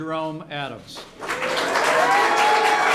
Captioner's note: applause